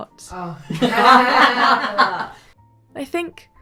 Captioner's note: everybody laughs